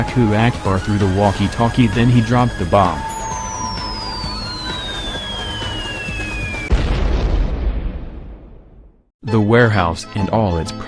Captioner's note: crazy whistling sound effect